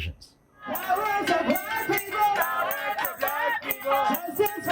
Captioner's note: chanting